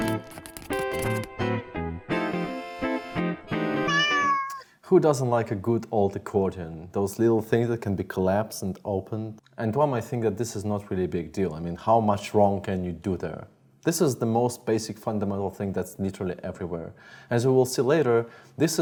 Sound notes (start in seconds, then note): 3.0 smooth jazzy music; 3.8 cat meows